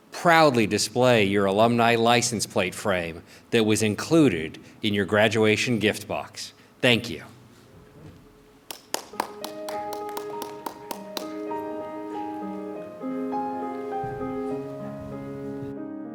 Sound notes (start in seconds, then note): 8.6 clapping; 9.0 piano music